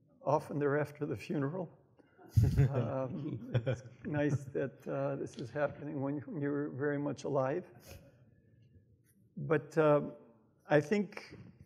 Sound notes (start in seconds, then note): 2.5 audience laughs